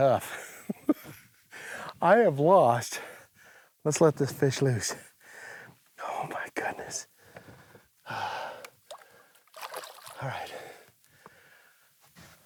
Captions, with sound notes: [laughing] I have lost-- let's let this fish loose. [whispering] Oh, my goodness. All right.